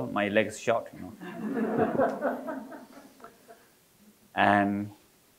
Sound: audience laughing

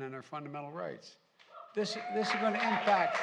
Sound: applause

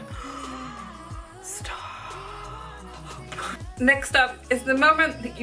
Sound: gasps

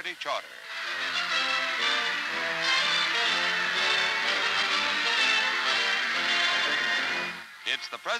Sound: cheering and music

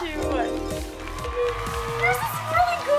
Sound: crowd cheering

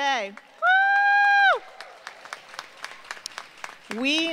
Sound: applause

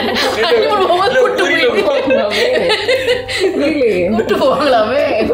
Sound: laughs

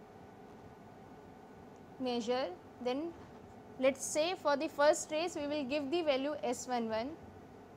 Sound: phase noise

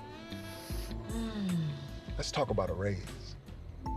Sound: sniffing

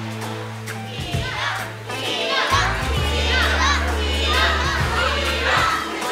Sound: crowd chanting in unison

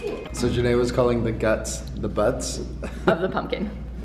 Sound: laughs

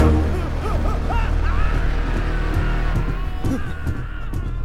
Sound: screams

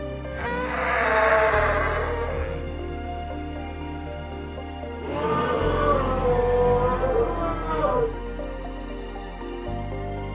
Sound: parasaurolophus screeching

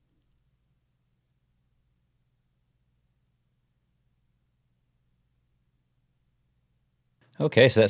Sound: silence

